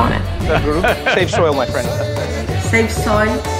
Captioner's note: laughs